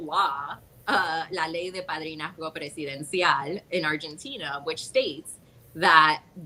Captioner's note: speaks Spanish